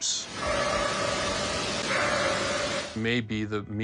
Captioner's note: eerie barking